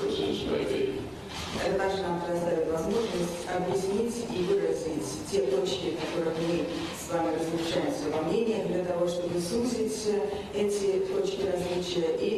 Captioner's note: TRANSLATOR, in Russian